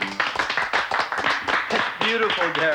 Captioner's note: applauding